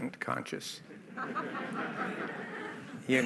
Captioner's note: laughter